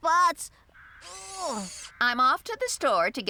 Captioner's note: grunting